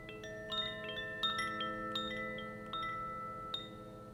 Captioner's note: gentle chimes